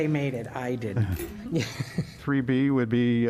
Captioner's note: laughter